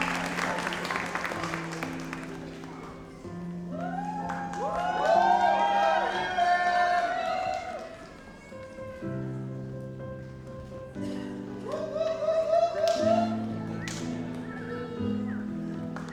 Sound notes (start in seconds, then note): 3.1 gentle music; 5.2 audience applauds; 8.8 gentle music